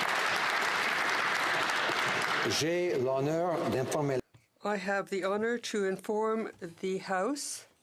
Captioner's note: some Applause